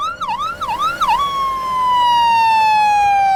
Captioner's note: sirens